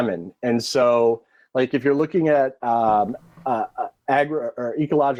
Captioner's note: stammering